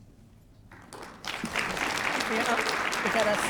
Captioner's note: applause